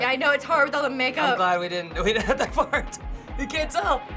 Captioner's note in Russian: посмеиваясь